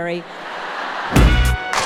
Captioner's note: audience laughing; upbeat music